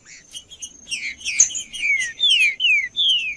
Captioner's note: trinca ferro cantando